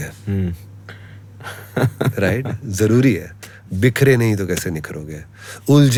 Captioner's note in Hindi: हंसी